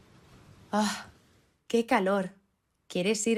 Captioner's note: sigh